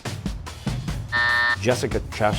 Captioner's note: buzzer